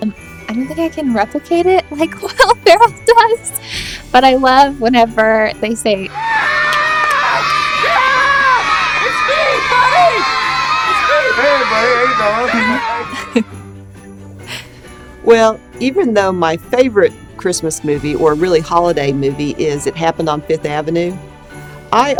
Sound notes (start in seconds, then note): 6.1 screaming; 13.0 laughs